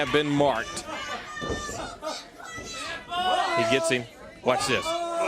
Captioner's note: crowd chatter